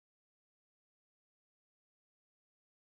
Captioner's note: none